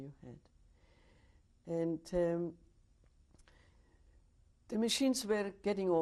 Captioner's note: pauses for 3 seconds